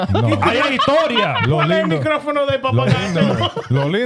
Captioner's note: speaking In Foreign Language